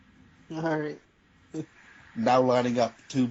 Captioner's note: laughing